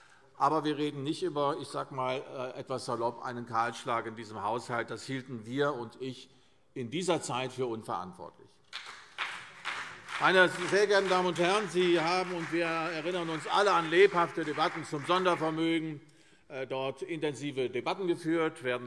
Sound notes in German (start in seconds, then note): 8.7 Beifall CDU und BÜNDNIS 90/DIE GRÜNEN